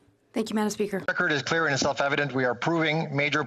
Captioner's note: speaking FRENCH